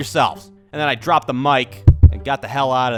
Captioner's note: pop